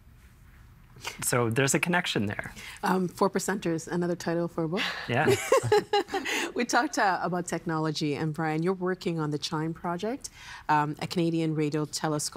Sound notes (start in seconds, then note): 4.7 laughing